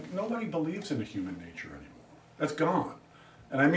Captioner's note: none